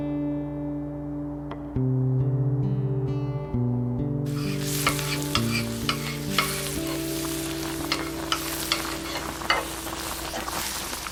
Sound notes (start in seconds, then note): 4.2 background sizzling